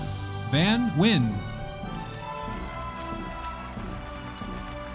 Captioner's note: audience applauding